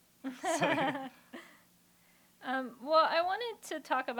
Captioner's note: laughter